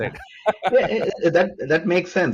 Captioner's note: laughs